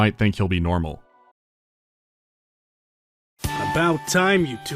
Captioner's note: silence